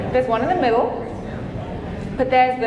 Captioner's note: audience chattering